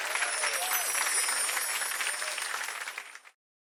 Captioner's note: chimes twinkling